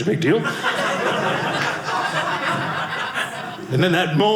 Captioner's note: audience laughing